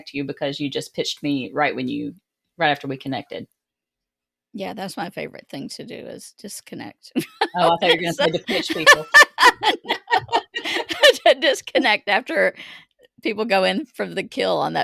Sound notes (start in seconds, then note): 7.2 laughs; 9.4 both laughing